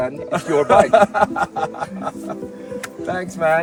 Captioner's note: laughing